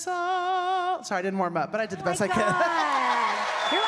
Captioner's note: audience cheering